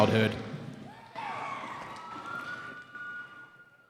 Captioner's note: cheering